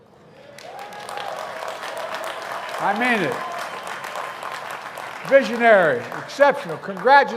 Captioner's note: applause